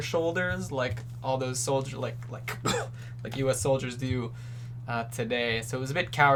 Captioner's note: coughs